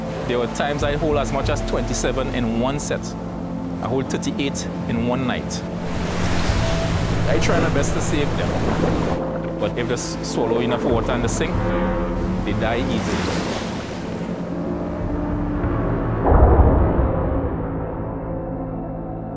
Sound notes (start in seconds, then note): 5.8 waves crashing; 13.3 melancholic music; 13.3 waves crashing